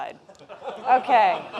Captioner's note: laughter